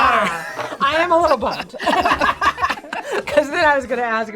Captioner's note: both laugh